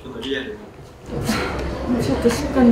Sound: sigh

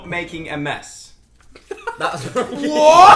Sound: laughs

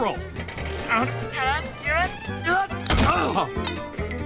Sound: grunting

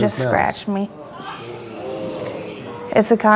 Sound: audience moans

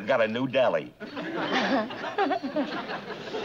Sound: laughs

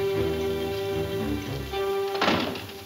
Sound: door closes

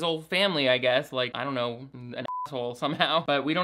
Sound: beep

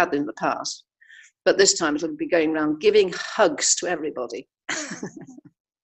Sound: laughs

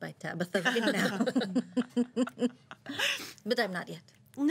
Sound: girls laughing

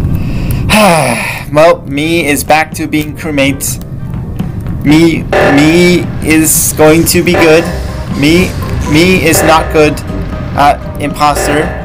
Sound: sighs

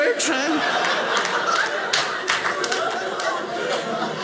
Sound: audience laughing

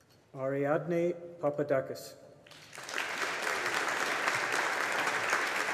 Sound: audience applauding

